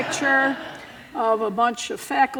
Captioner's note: laughter